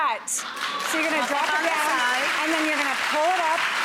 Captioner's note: clapping